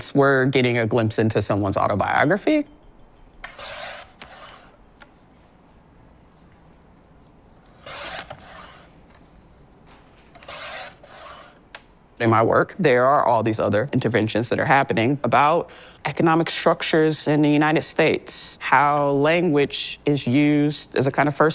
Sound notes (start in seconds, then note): 3.5 blade slicing